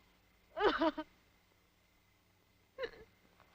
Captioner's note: sobbing